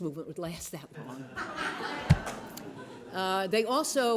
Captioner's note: laughter